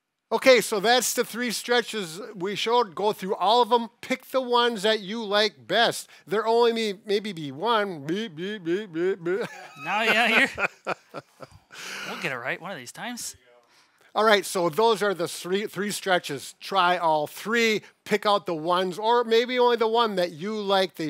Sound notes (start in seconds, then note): 8.7 laughs